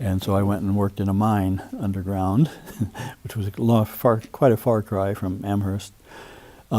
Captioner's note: chuckles